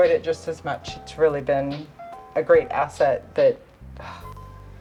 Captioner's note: sighs